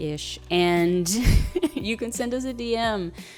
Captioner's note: chuckles